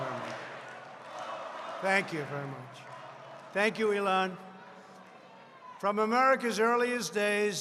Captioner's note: applause